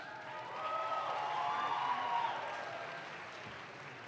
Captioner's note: audience claps